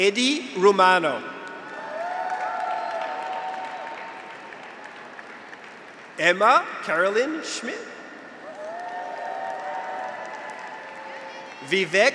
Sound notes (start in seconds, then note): 1.6 graduates cheer; 1.7 audience applauds; 8.3 graduates cheer; 8.4 audience applauds